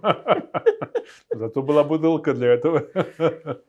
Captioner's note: laughing